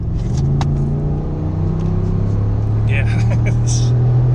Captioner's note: car accelerating; laughing